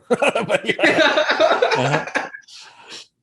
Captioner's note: laughter